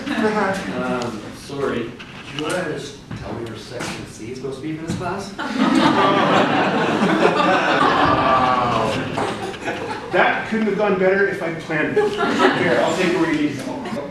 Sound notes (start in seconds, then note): 5.4 laughter